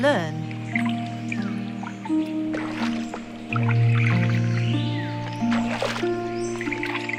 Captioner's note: water rustling; dramatic music